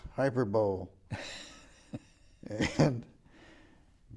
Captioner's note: laughing